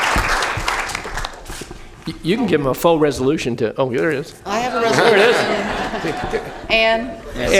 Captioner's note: applause